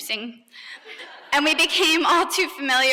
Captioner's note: laughter